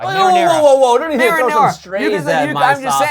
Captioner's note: chattering